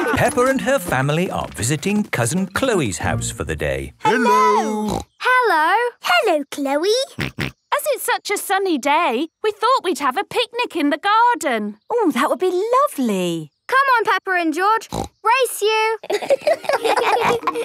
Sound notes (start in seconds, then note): 7.2 snorting; 16.0 laughter